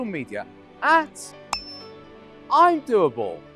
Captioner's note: pop ding